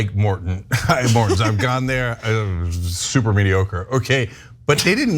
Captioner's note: laugh